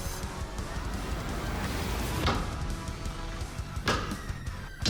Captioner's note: sword striking